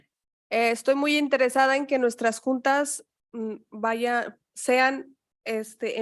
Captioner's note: speaking in Spanish